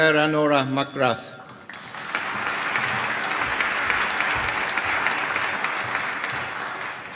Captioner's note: applause